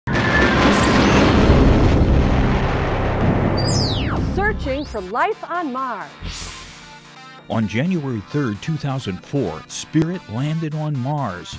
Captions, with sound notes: [ Sound Effects ] Searching for life on Mars. On January 3, 2004, Spirit landed on Mars.